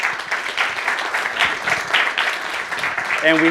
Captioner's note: applauding